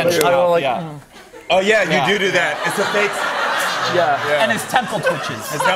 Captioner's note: laughter